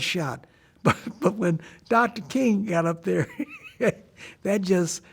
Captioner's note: laughing